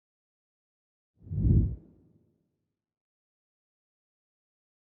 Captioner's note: logo swooshes